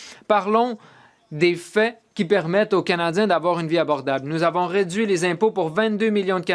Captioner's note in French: voix de l'interprète